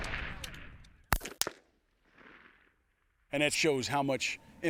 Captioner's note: gun shots firing